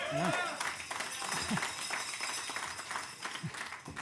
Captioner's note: cheers and applause